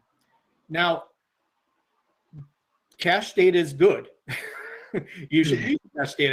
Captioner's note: laughs